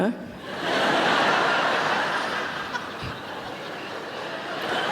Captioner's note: audience laughing